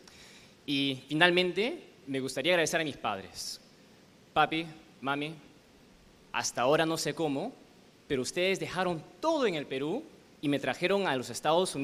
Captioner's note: speaking spanish